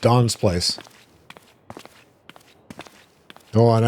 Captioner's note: footsteps